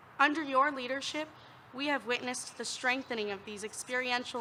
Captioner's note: none